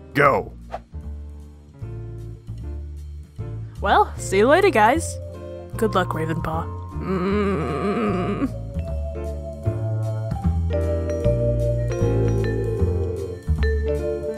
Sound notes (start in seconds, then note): 7.0 Ravenpaw groans in fear